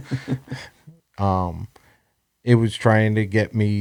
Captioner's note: laughs